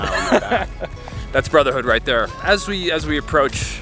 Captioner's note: laughs